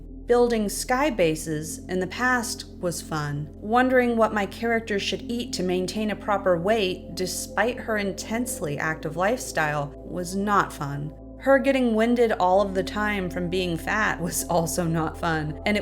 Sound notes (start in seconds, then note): none